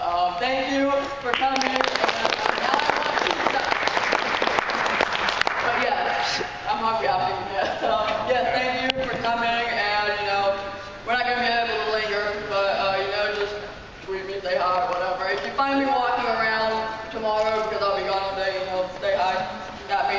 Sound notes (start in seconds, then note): 1.2 applauding